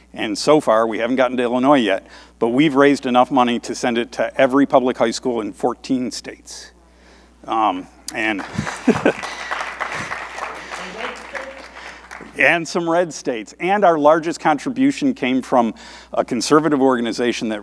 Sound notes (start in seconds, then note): 8.2 audience applauding